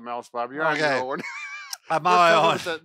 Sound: laughs

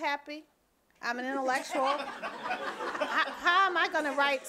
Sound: audience and panel laughing

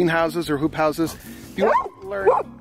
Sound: dogs bark

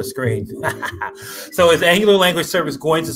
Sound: laughs

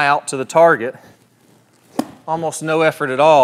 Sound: golf club swishes

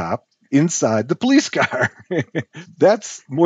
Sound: laughs

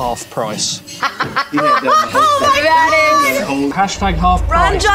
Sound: laughter

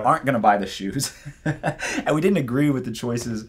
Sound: laughs

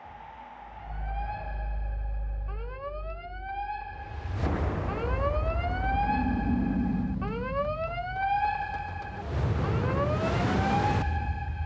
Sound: siren blares

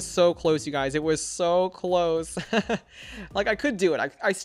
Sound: laughs

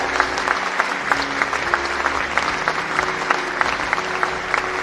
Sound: applause

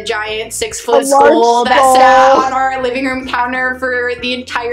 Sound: laughs

